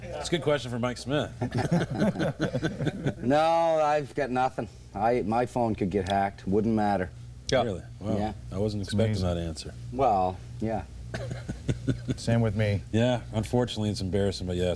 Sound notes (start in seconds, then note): 1.4 laughter; 11.1 laughter